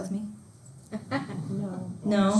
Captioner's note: students laughing